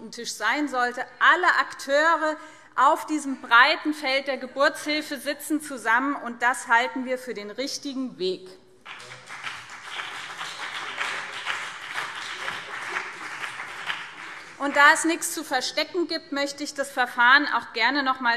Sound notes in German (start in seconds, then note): 8.8 Beifall BÜNDNIS 90/DIE GRÜNEN und CDU